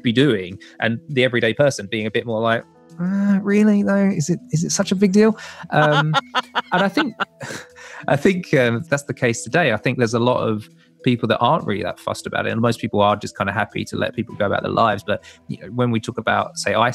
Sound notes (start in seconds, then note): 5.6 laughter